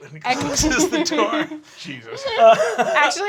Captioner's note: laughing